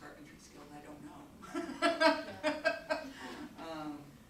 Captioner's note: laughs